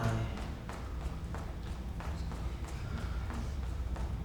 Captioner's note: footsteps stomping